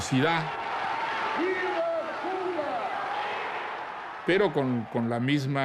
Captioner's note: crowd cheering; speaking Spanish